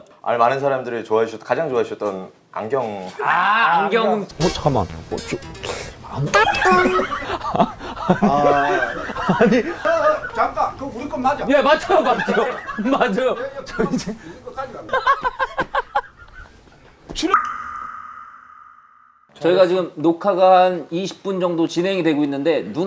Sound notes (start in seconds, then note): 6.0 laughing; 14.7 laughing